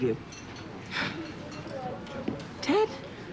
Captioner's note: sighs